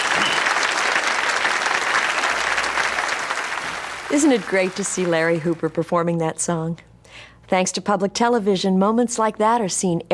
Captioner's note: applause